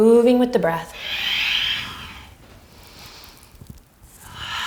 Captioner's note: deep breathing